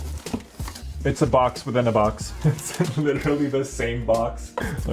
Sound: laughs

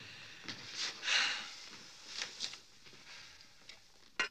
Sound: sighing

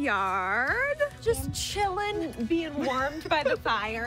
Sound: group laughing; bright upbeat music

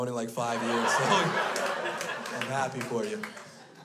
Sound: crowd laughs

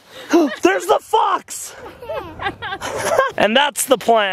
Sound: all laughing

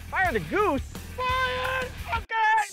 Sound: yelling

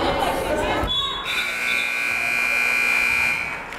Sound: buzzer

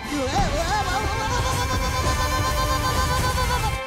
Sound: screaming

